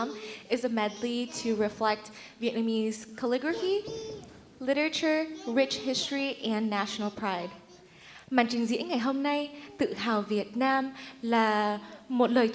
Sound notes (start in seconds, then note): 7.9 speaks in Vietnamese